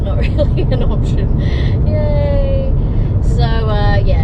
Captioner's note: wry chuckle; unethusiastic and sarcastic